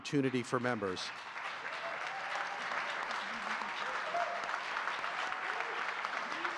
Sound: audience cheering and clapping

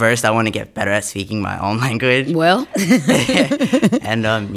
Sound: laughter

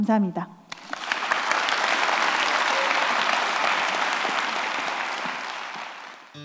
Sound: applause

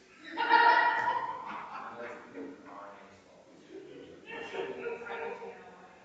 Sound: people chattering distantly continues

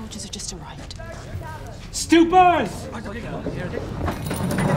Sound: Kah'Nath soldier shouts from outside; villagers murmur hurriedly

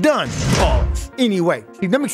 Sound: bars slamming

